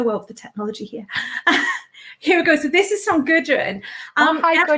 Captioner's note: laughs